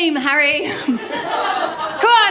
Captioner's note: laughter